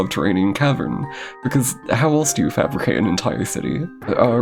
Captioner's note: exasperated inhale